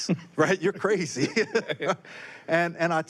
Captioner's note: both laughing